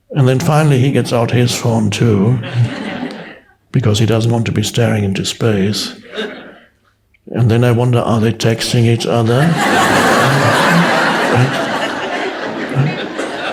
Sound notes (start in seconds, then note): 9.2 audience laughs